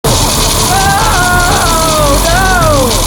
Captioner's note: screaming